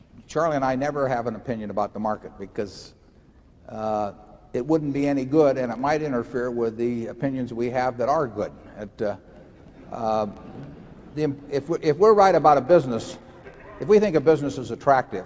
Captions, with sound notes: Charlie and I never have an opinion about the market because it wouldn’t be any good and it might interfere with the opinions we have that are good. (Laughter) If we’re right about a business, if we think a business is attractive,